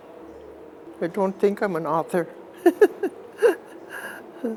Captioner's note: chuckling